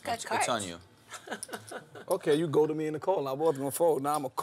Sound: laugh

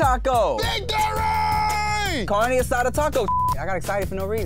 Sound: beep

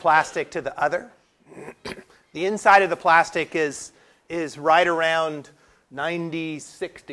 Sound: cough

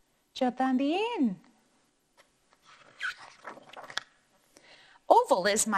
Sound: speaking in foreign language

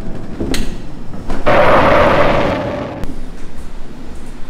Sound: static hissing

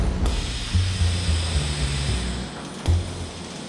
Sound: pneumatic hiss

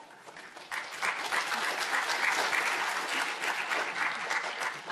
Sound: audience applauding

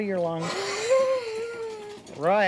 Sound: exhaling

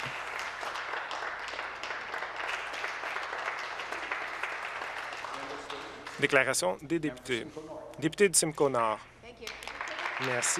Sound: applause

